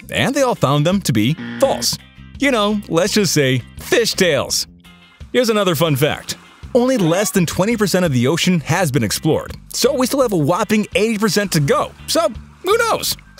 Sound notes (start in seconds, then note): 1.2 buzzer rings